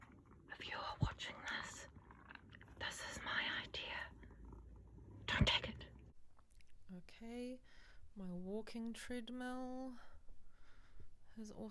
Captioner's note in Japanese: ささやき